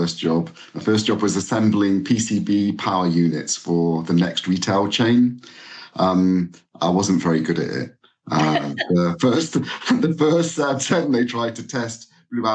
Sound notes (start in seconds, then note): 8.3 chuckles